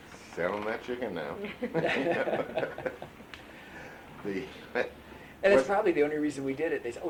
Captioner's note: laughter